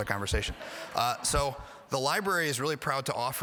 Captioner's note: audience laughing